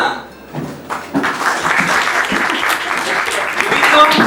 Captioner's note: applause